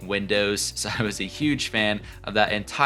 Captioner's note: chuckling